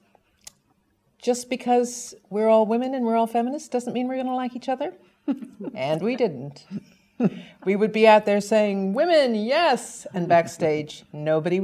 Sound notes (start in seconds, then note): 5.3 laugh